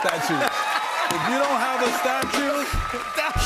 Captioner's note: cheers and applause